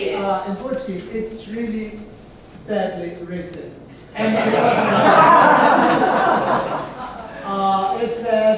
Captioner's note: laughs